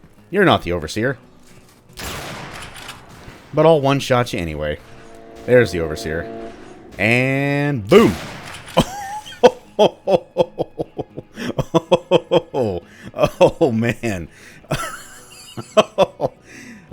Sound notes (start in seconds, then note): 1.9 railgun fires; 7.6 bam; 9.7 joyously laughs in gibs; 14.0 more raucous laughter